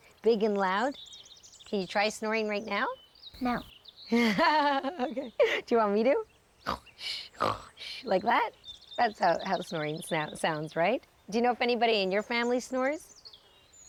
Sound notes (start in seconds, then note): 4.1 laughing; 7.0 imitating snoring